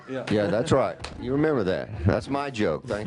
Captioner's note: laughter